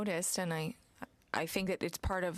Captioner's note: speaking french